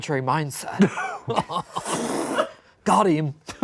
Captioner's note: laughs